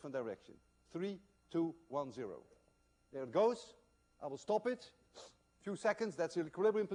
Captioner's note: sniffs